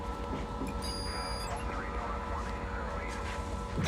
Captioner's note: electronic beeping